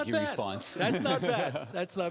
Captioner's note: laughing